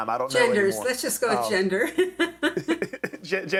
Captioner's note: laughs